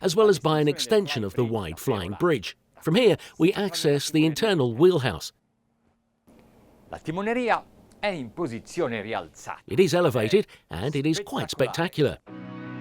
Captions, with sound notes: as well as by an extension of the wide flying bridge. From here, we access the internal wheelhouse. (speaking in foreign language) It is elevated and it is quite spectacular.